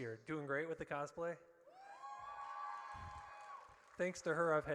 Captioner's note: audience cheers